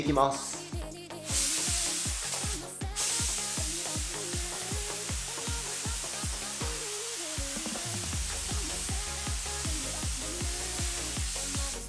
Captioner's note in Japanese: 塗装音